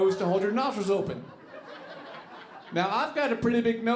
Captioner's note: audience laughing